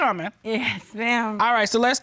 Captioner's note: chuckles